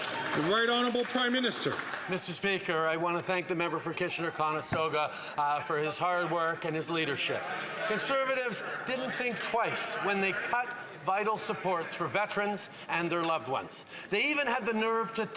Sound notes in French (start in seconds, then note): 7.0 voix de l'interprète